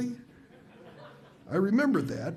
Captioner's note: audience laughs